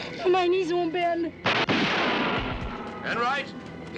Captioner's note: gun firing